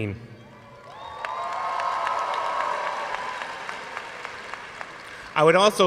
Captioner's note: audience cheers and applauds